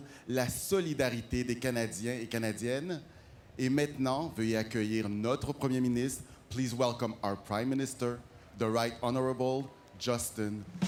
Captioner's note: speaking French